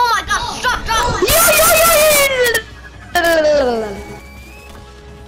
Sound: speaking gibberish

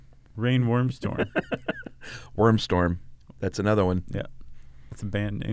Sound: laughs

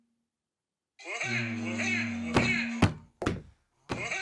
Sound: angry-clown laugh alarm rings

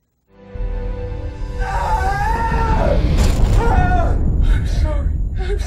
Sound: scream

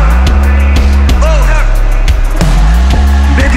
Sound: audience vocalizing

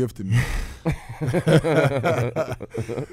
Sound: laughing

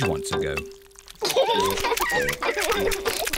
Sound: both laugh; laughs and oinks

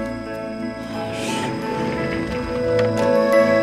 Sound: door closes

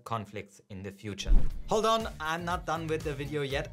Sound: air whooshing

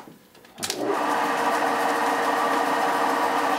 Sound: whirring

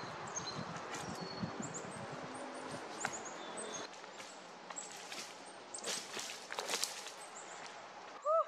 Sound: chickadees chirping, footsteps in branches and leaves; exclamations of effort, footsteps in branches and leaves

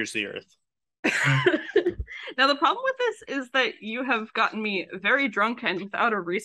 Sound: laughs

